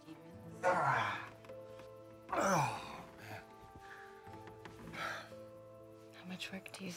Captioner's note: groaning